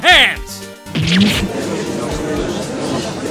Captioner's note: gallery chattering; growls